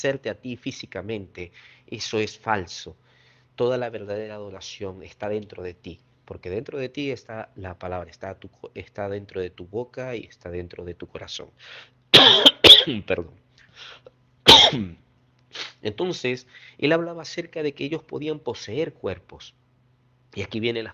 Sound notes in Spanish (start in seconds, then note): 15.5 resoplido